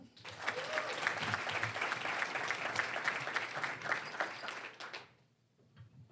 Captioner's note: applause